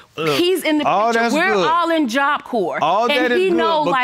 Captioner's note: none